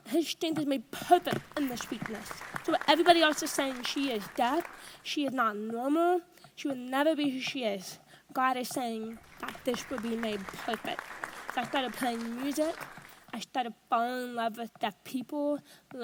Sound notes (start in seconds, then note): 1.1 audience applauds; 9.2 audience applauds